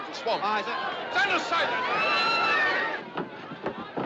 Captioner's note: Gritando